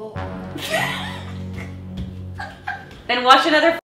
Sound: laughing

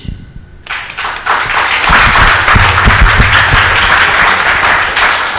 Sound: audience applauds

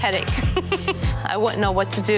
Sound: laughing

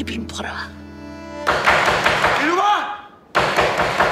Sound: knocking on the door

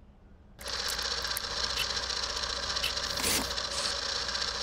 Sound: film whirring

